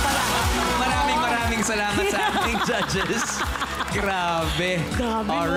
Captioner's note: melai chuckles